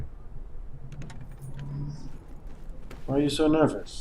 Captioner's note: car door opening, footsteps